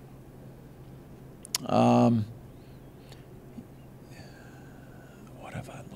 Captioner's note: silence